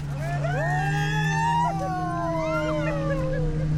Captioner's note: screaming and laughter